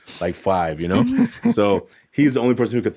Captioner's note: laughs